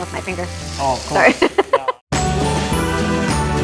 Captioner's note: laughs